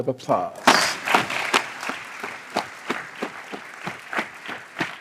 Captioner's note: applause